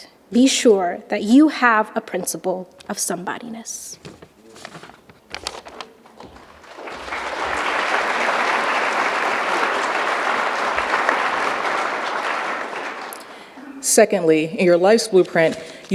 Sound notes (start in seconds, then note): 6.2 audience applauding